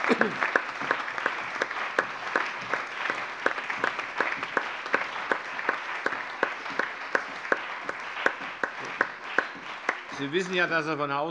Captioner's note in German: Anhaltender allgemeiner Beifall